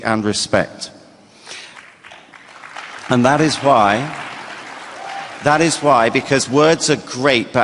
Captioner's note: applause